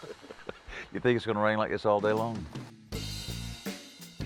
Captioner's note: laughter